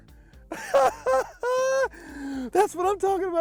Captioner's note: laughs